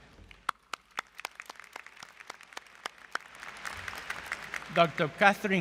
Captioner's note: applause